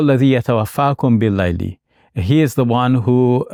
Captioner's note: speaks foreign language